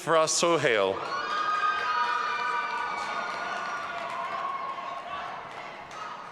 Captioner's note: audience applauding and cheering